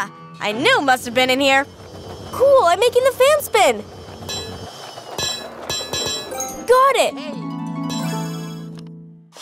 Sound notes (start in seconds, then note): 7.8 victorious chime sound